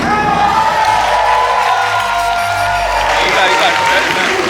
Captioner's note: inspired music; spectators applauding